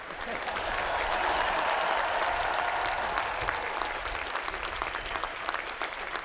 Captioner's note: crowd cheering